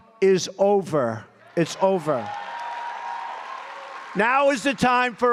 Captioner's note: applause